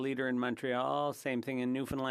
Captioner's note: speaking French